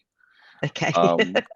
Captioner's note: laughs